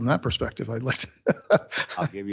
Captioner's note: chuckles